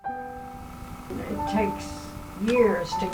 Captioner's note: sounds of the city